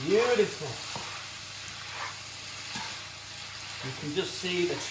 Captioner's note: sizzling